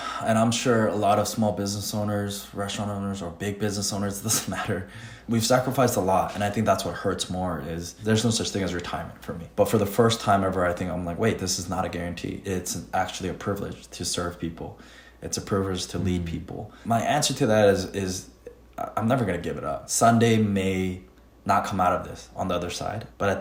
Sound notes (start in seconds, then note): 4.4 laughs